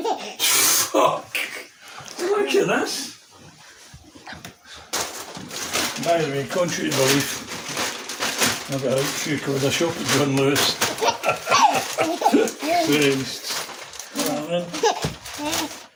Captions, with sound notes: Look at this. Contrairy to belief, i actually shop at John Lewis (laughing) (baby laughing)